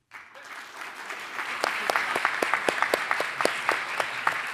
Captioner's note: audience applauding